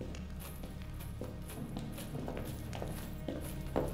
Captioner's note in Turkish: Zincir zırh sesleri